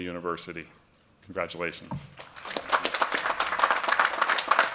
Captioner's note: applause